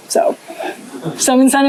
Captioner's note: laughter